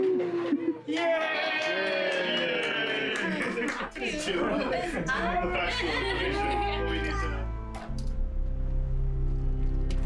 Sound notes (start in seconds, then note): 0.9 cheering; 7.2 subtle music